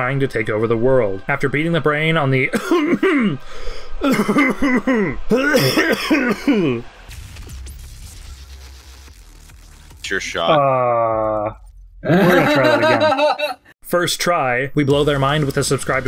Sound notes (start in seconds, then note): 5.3 coughing fit